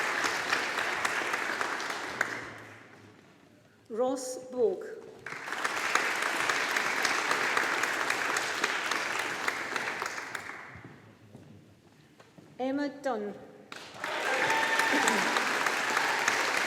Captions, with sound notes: Ross Boag. (AUDIENCE APPLAUDING) Emma Dunne. (AUDIENCE APPLAUDING)